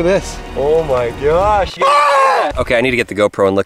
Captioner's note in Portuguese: gritos